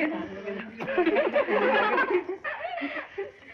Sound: laughing

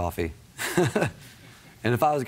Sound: chuckles

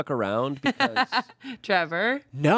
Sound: laughs

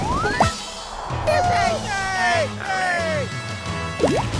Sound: cheering

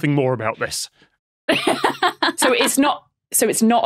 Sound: laughs

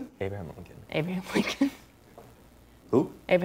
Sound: laughing

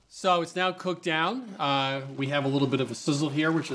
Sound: pot sizzling

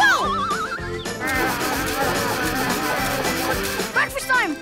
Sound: growling

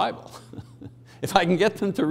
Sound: chuckling

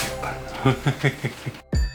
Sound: laughing

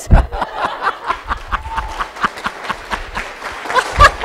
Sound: laughter; applause

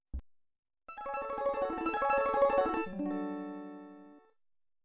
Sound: 16-bit chime plays

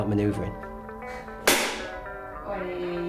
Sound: clapper bangs

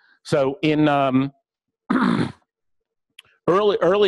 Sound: pause

